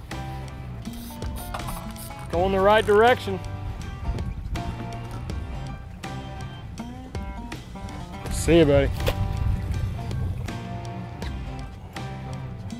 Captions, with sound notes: (fishing rod line reeling in) Goin' the right direction. See you, buddy. (splash)